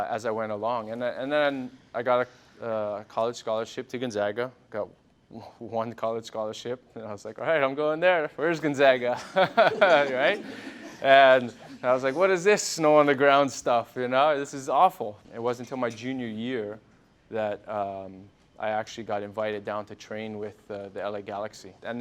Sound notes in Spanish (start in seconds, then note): 9.1 risas